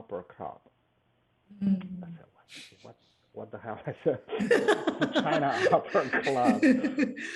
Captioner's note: laughs